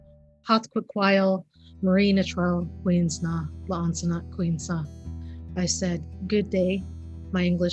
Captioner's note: non-english speech